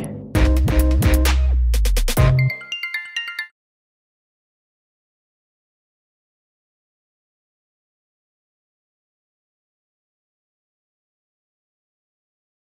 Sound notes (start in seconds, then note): 2.3 apple watch ringtone